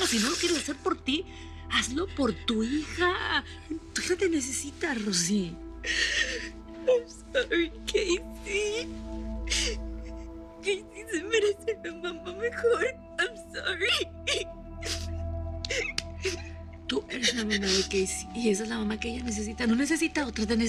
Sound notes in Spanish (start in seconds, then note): 5.8 Sollozos; 14.3 Sollozos